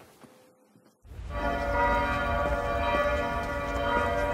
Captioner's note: church bells